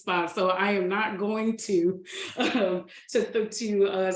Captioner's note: laughs